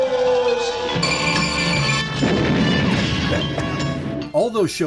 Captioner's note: laser beam sounds